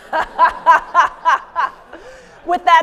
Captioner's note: audience laughs; laughs